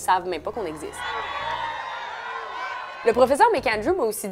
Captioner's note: cheers